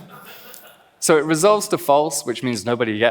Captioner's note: laughs